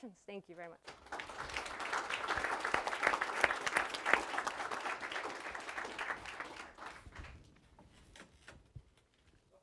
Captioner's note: applause